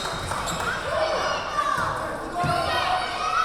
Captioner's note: yelling